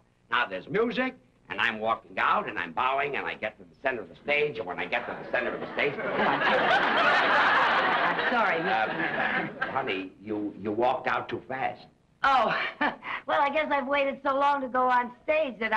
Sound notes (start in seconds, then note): 5.0 audience laughs